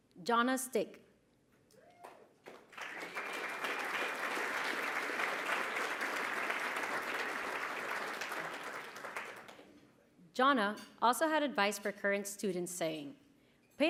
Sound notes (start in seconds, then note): 2.4 applause